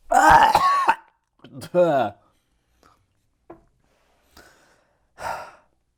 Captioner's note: choking